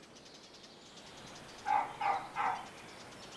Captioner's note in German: Emmy bellt